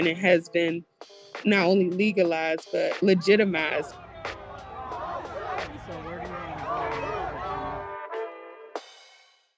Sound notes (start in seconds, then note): 4.6 crowd chanting